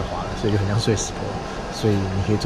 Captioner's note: laughs